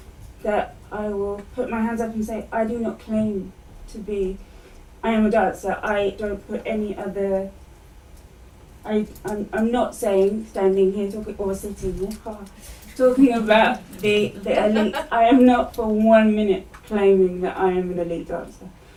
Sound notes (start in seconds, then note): 14.2 laughter